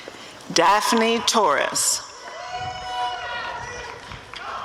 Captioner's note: applause and cheering